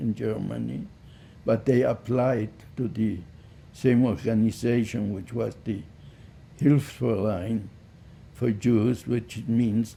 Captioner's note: german